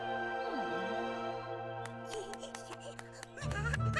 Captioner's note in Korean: 웃음소리